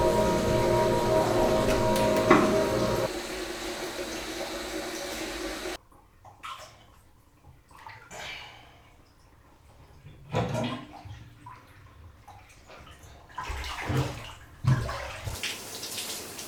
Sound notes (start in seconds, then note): 10.0 unplugged drug, water draining